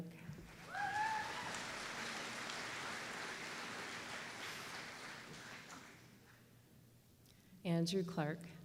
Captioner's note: applause